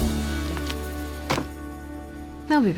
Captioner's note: book thuds